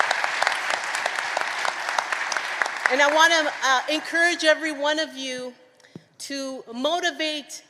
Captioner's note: applause